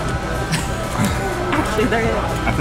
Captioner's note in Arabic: يضحك